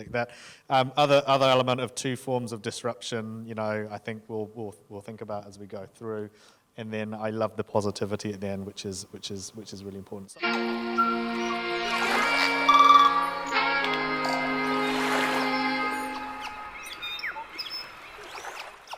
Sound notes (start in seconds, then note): 10.4 uplifting music; 12.6 birds whistle; 14.0 waves lap; 14.8 birds whistle